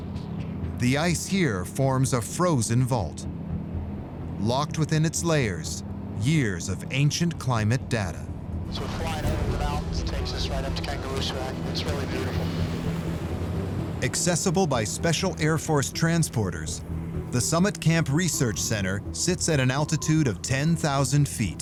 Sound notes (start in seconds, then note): 8.1 radio